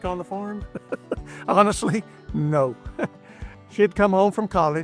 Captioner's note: laughing